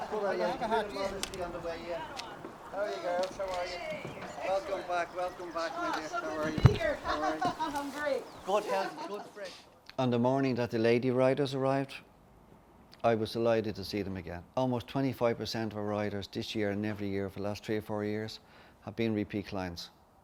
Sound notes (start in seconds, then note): 7.6 laughing